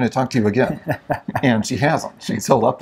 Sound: laughs

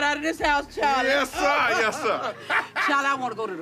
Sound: laughing

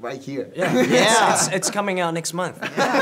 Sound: laughing

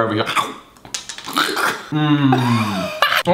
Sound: laughs; sputters

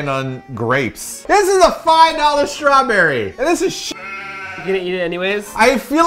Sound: baa

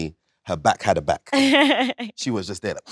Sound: Letitia laughs

